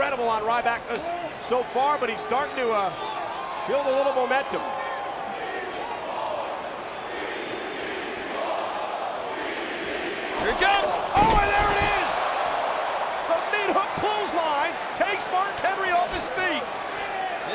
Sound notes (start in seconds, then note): 5.9 crowd chanting